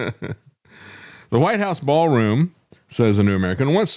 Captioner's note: laughing